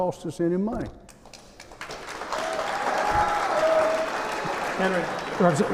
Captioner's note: applause